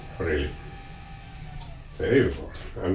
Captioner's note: lathe stops